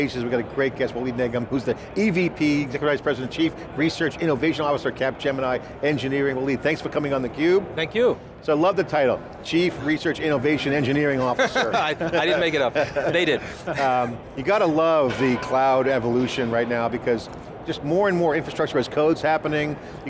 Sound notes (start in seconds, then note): 11.2 laughing